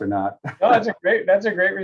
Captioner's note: laugh